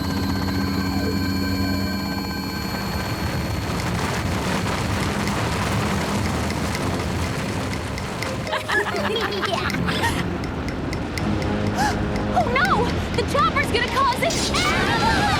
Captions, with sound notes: [radio wave] [avalanche roars] [laughter] [gasp] Oh no, the chopper is gonna cause an--